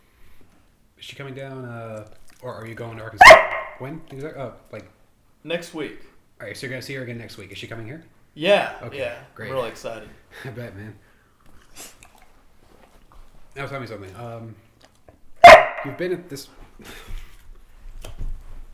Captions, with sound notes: Is she coming down, or are you-- -(Emma barks loudly) -Next Week. -Next week--is she coming here? -Yeah! I'm really excited. -I bet, man. Now tell me something. Um... -(Emma barks loudly)